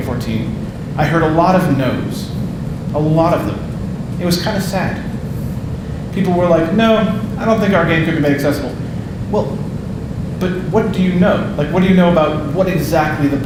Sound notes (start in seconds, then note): none